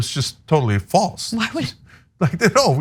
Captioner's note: laugh